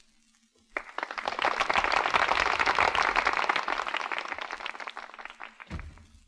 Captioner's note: applause